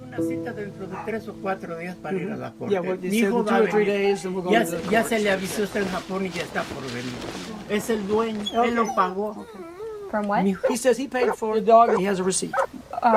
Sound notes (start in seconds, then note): 0.3 speaking in foreign language; 5.1 speaking in foreign language; 8.4 dog crying